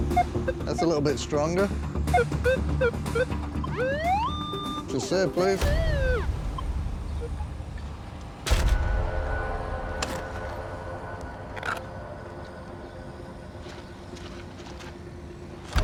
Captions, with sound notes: That's a little bit stronger. -[electronic whine] -Just there, please.